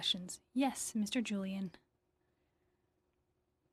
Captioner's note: speaking in French